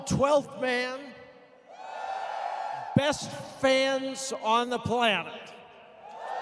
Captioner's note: cheers